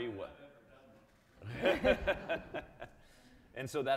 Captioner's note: audience laughing